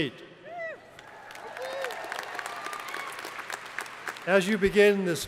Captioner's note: crowd applauding